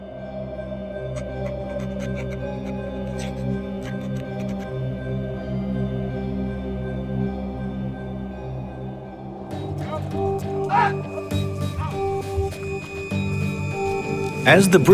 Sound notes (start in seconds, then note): 0.2 dramatic music; 9.4 chanting